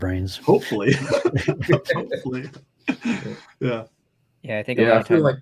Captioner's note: laughter